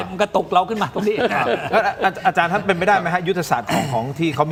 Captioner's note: laughs